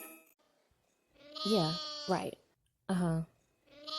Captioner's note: sheep baas